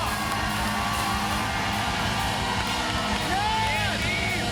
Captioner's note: cheers and applause continue